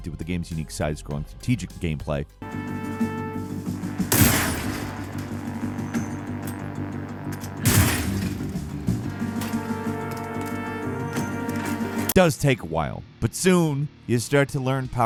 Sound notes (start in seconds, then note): 2.5 light dramatic music; 3.8 gun blasting; 7.5 blow slams